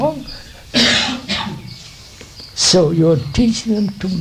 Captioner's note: laughs